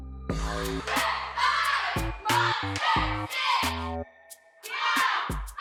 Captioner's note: dancers chanting